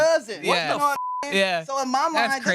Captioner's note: beep